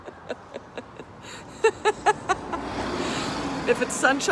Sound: laughter

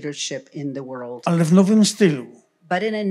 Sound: foreign language

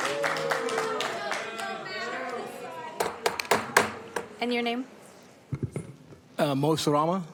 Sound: applause

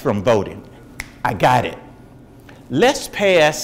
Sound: snaps fingers

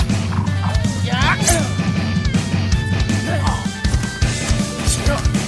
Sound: grunts

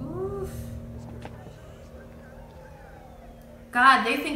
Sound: police siren softly howls; crowd softly chattering

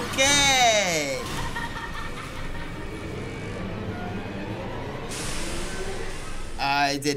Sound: tense music; laughing

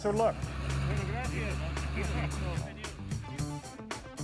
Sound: speaking Spanish

